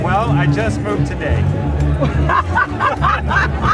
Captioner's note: both laugh